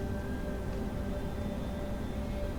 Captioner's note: none